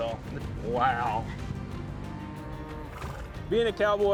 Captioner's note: cattle mooing